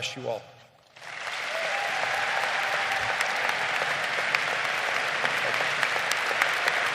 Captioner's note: crowd applauding